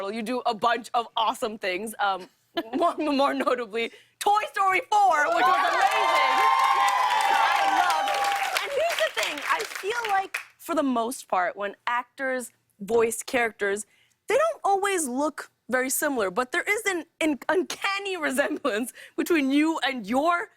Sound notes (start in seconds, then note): 5.2 cheers and applause